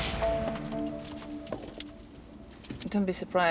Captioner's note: keys rattle